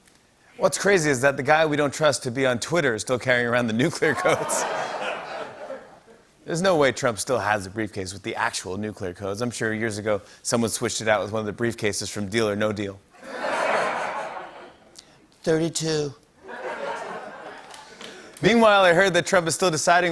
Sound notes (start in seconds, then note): 4.0 laughter; 13.2 laughter; 15.0 As Trump; 16.4 laughter and applause